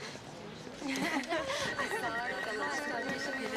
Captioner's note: laughing, chattering